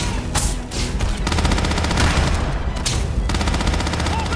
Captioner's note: pirates yelling